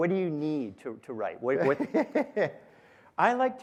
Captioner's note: laughter